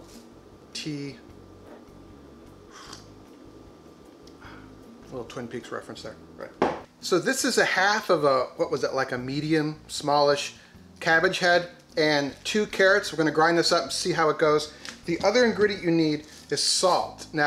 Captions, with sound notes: tea. (slurps) A little Twin Peaks reference there. So this is a half of a, what was it, like a medium, smallish cabbage head and two carrots. We're gonna grind this up and see how it goes. The other ingredient you need is salt.